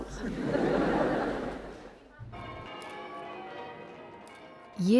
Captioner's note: crowd laughing